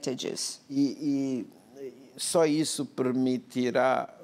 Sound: speaking portuguese

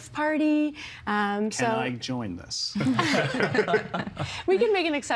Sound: laughing

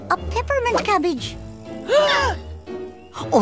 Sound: gasps

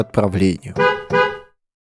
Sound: car horn

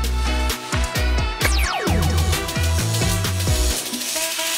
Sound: upbeat music; laser strobing

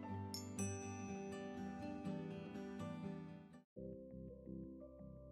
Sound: chimes tinkling; calming music

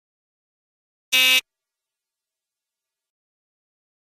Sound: sound of apartment buzzer

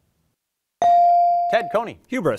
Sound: bell ringing

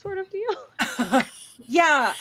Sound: laughter

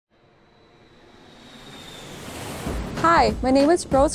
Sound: wind whooshing

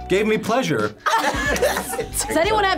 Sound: group laughs

